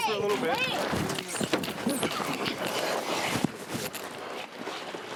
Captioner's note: scuffling sounds